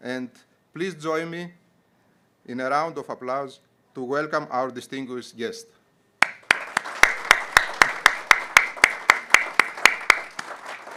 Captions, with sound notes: and please join me in a round of applause to welcome our distinguished guest. (audience clapping)